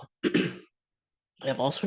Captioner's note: clears throat